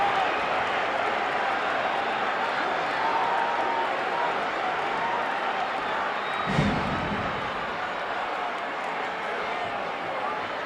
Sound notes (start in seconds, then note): 6.5 mat banging